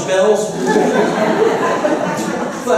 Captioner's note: laughter